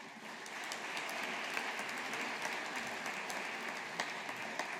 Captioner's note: audience applauding